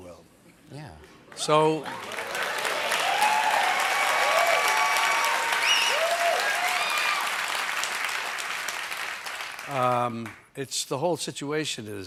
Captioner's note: cheers and applause